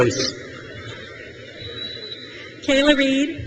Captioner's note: crowd cheers